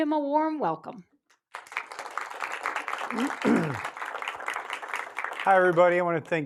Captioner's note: applause